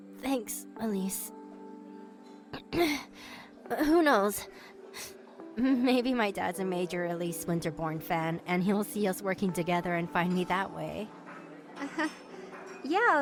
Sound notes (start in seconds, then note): 0.3 sniffling; 2.5 clears throat